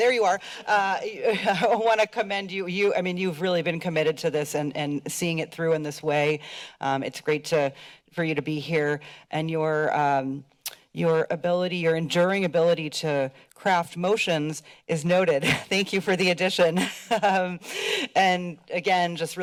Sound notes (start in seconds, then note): 15.1 laughs; 17.6 laughs